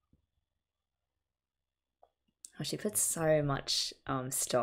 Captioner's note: none